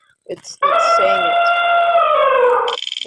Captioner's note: elephant trumpeting